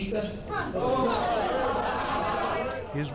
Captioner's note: crowd shouting